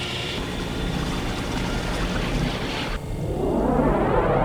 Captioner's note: liquid whooshing; space whooshing